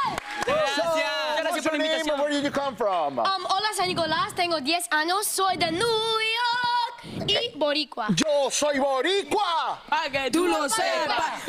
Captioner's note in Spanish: aplausos